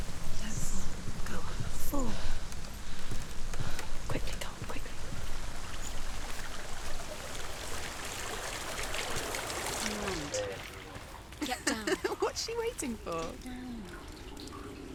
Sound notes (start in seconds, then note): 0.5 whispering; 4.2 hushed; 11.4 laughs